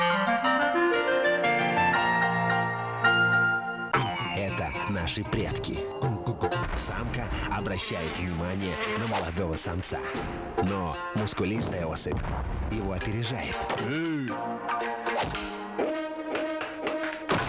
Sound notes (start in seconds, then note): 0.1 optimistic music; 13.6 hit